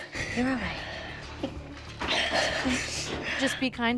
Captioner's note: breathing shakily